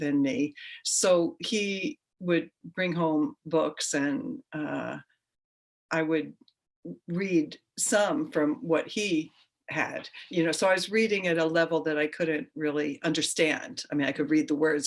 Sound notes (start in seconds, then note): none